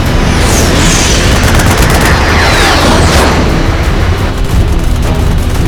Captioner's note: planes flying; gunfire